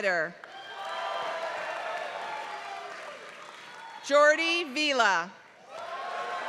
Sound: applause

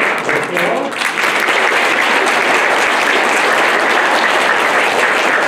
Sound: applause

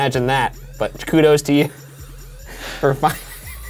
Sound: laughs

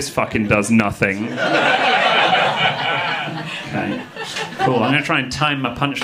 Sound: audience laughing

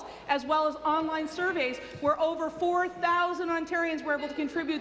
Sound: none

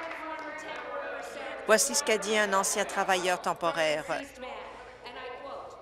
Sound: applause

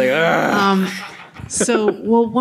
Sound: groans

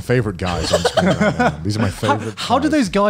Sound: laughs

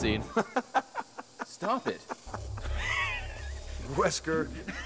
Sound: laughs

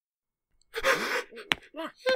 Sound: gasps

